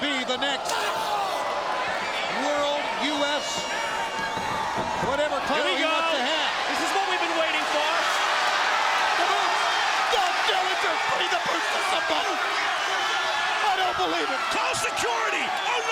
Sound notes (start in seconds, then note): 8.0 crowd cheering